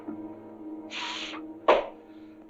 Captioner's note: exhales and claps